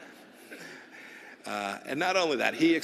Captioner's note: laughter